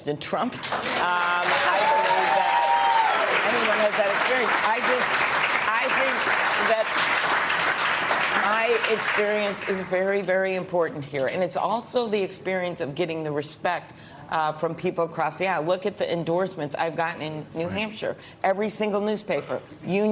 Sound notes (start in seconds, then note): 6.5 applause